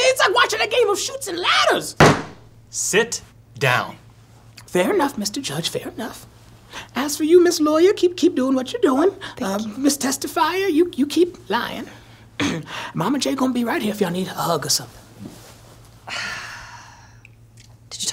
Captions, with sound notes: it's like watching a game of chutes and ladders! [gavel pounding] - Sit down. - Fair enough, Mr. Judge, fair enough. As for you, Miss Lawyer, keep doing what you're doing. - Thank you. - Miss Testifier, you keep lying. Mama-J going to be right here if y'all need a hug or something. [sighs]